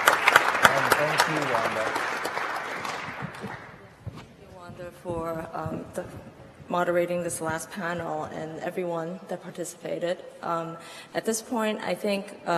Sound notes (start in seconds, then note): 0.0 applause